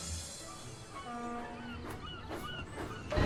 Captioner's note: ship horn blasts